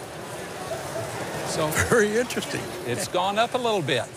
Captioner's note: chuckling